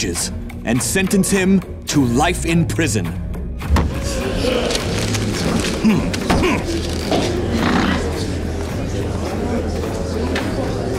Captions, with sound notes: and sentence him to life in prison. [gasping] [grunting]